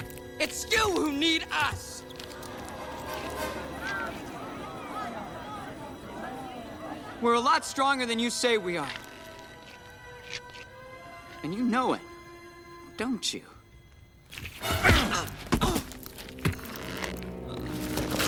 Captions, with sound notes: It's you who need us. [Crowd Gasping, Chattering] We're a lot stronger than you say we are. And you know it, don't you? [Grunts]